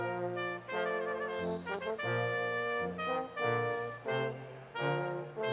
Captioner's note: audience member whistles